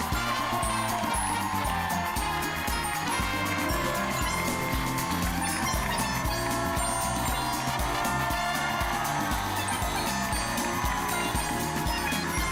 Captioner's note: cheers and applause